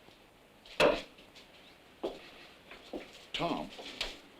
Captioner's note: knife thuds